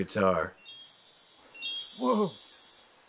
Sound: magical twinkle

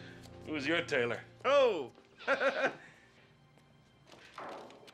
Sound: chuckling

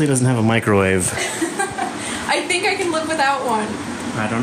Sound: laughs

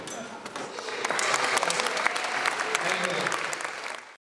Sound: ^applause^

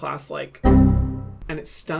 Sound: computer beeps

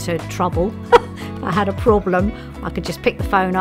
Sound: laughs

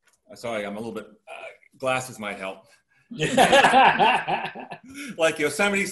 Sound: group laughter

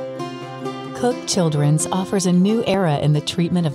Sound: happy music; voiceover

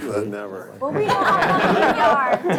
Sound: all laugh

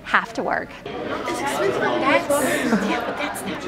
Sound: crowd noise

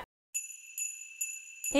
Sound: sleigh bell jingles

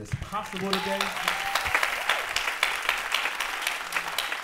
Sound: applause

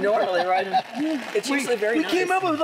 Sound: laughing

